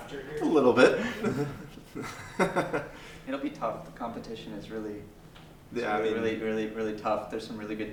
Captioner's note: laugh